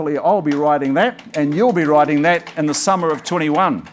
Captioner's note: audience claps